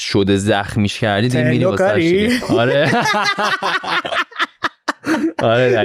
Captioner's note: laughs